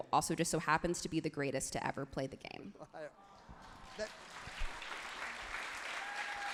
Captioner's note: crowd claps genuinely